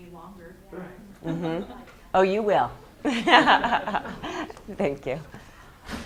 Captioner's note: laughs